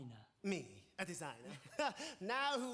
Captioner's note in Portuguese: laughs